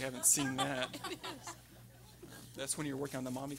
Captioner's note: everyone laughing